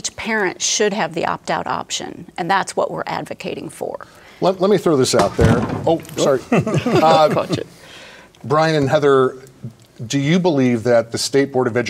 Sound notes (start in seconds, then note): 5.2 stool skidding